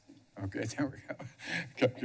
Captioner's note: chuckles